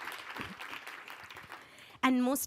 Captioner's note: applause